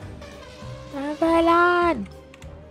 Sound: yelling for avalon to return to her computer

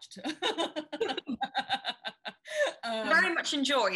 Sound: laughing

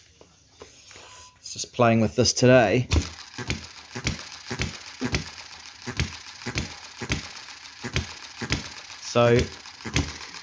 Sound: starts engine

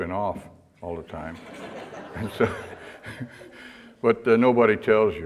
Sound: audience laughter

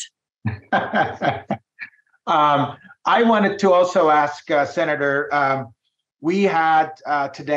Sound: laughing

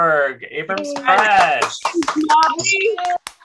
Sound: applause

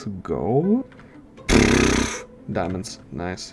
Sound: sheesh noise

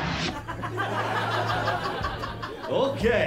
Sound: laughter

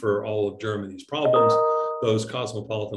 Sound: bell chiming

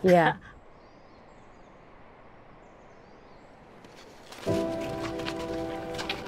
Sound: birds twittering; soft music

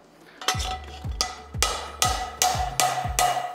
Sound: metal clangs

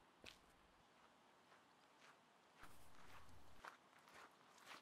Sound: footsteps approaching

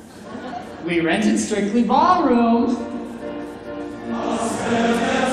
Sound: audience laughing mildly

